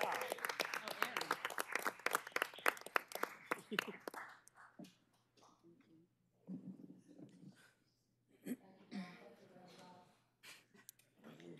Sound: cheers and applause

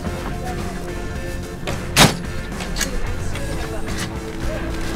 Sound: table clicks

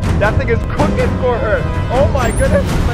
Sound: none

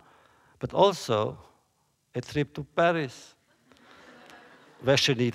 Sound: laughter

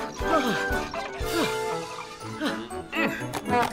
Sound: puffs; fairground music

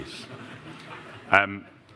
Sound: laughter

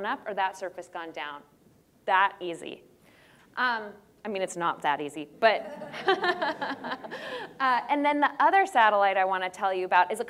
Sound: audience laughter

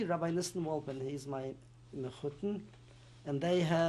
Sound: non-english

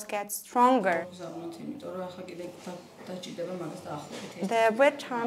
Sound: speaking Georgian

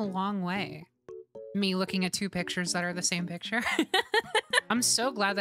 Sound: laughter

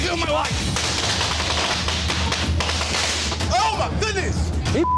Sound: fireworks banging; beep

